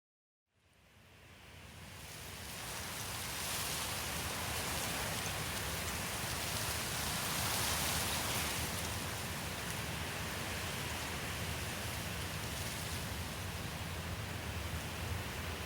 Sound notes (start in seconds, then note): 1.2 wind sounds, rushing water